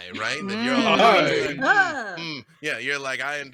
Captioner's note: murmurs